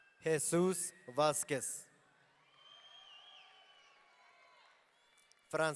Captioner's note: audience cheering